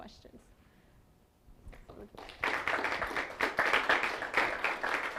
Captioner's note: applause